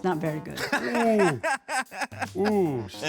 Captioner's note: laughing